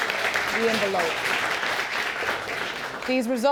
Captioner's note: audience applauds